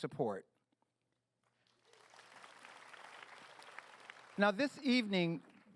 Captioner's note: applause